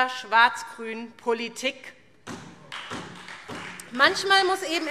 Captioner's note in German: Beifall